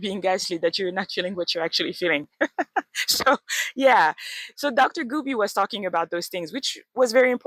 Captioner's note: laughs